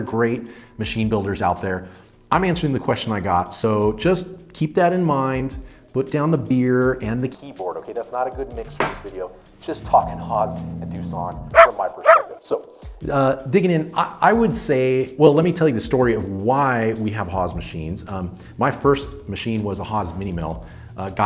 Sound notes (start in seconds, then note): 9.9 dog growling; 12.0 dog barking